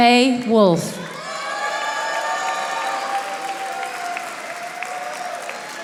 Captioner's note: audience applauding